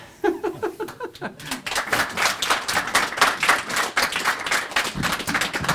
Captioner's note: audience applauding